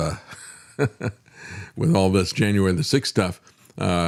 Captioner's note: laughs